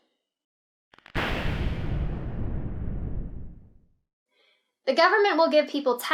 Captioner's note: lightning crackling